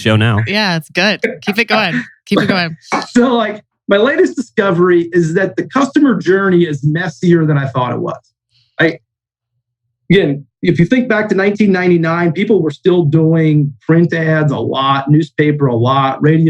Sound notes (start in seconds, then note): 1.6 laughs